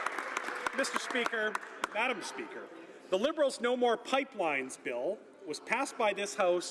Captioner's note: some Applause